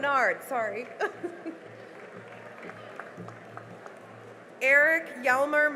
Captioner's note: cheering and applause